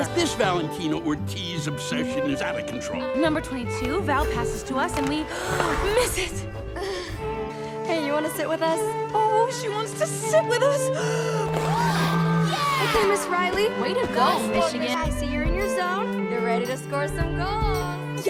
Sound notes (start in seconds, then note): 11.1 gasps; 11.5 crowd cheering